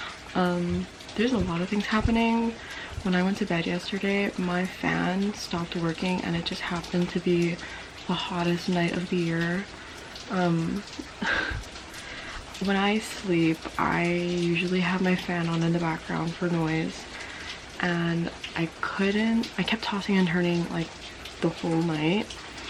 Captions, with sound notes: Um... there's a lot of things happening. When I went to bed yesterday, my fan stopped working and it just happened to be... the hottest night of the year. Um... [laughs] When I sleep, I usually have my fan on in the background for noise. And I couldn't—I kept tossing and turning, like, the whole night